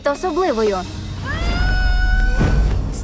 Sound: screams

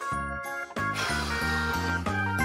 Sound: exasperated blowing

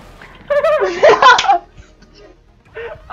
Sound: falls and laughs

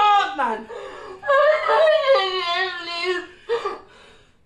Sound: Elle Sobs

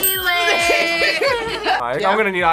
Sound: group laughs

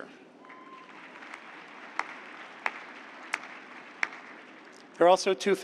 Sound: applause

